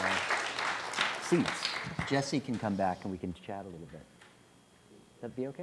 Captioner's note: applause